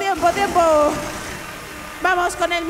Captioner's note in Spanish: Aplausos